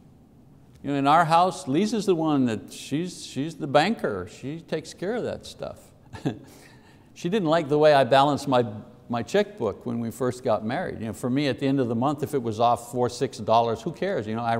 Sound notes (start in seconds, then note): 6.1 laughs